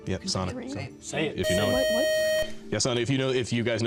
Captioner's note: beep